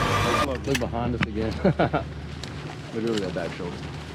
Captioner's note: man laughing